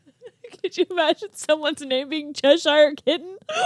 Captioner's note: laughing